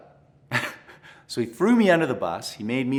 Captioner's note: chuckles